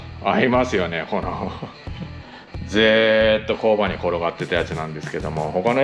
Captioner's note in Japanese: 咳払い